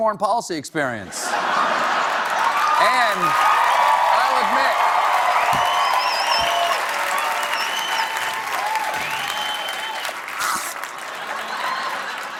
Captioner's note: laughter; applause